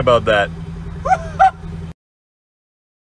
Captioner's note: strange, high-pitched laugh